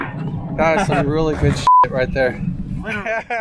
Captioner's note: laugh